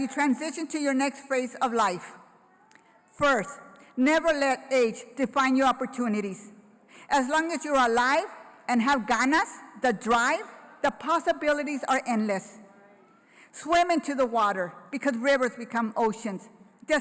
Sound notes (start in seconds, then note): 8.6 foreign language